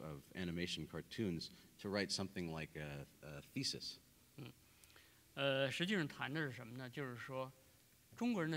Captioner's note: speaking in Chinese